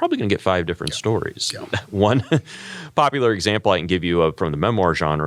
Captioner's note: laugh